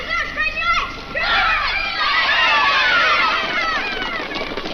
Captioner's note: kids yelling